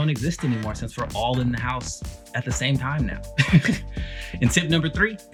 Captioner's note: laughs